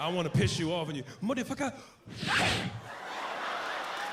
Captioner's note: blows air